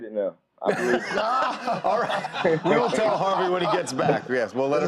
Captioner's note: laughter